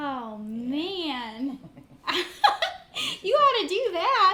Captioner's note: chuckles